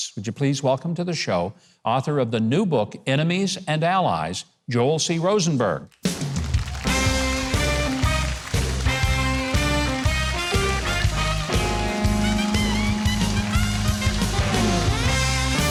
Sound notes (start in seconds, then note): 6.6 upbeat music; 7.8 audience applauding